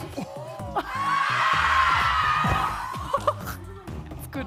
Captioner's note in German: Sie schreien